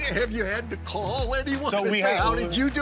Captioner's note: laughing